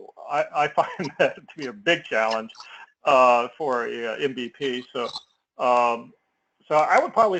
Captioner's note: laugh